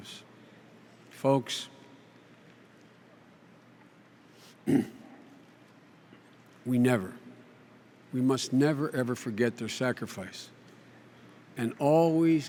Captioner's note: clears throat, stifles sob